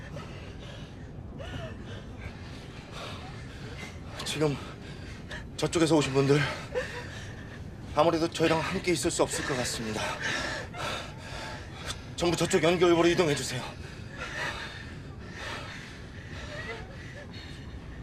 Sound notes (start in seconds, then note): 13.0 heavy breathing